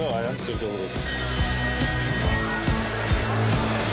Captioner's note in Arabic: يرن الجرس